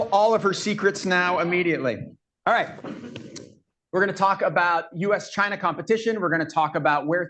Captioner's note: laughter